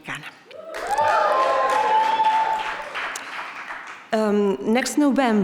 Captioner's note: speaking Spanish; audience cheering; audience applauding